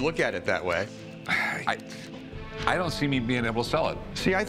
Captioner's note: sighs